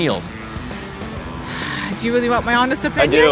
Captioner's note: sighs